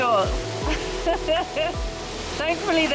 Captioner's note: nervous chuckle